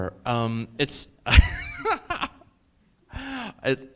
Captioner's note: laughs